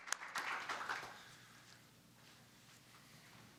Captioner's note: applause